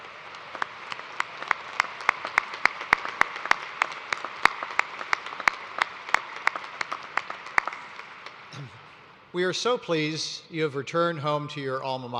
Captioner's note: applause